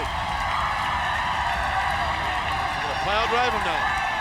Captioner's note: crowd cheering